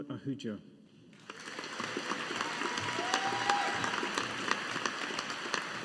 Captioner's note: audience applauding